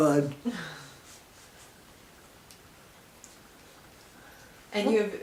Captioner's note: silence